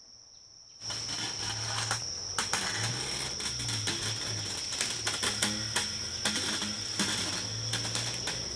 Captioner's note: creaking